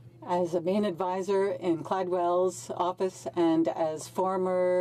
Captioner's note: speaking French